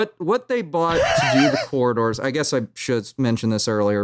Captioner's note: laughs